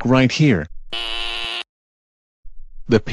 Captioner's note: buzzer sound